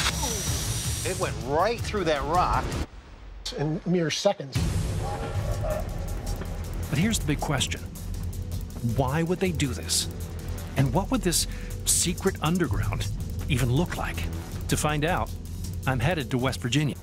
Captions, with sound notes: - Ooh! It went right through that rock in mere seconds. [train horn whistling] - But here's the big question: why would they do this? And what would this secret underground even look like? To find out, I'm headed to West Virginia.